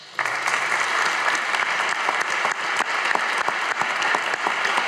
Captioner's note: audience applauding